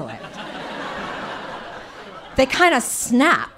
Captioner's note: audience laughing